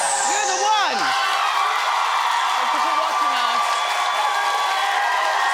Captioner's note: audience cheering